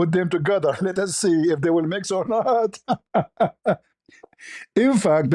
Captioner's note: ketawa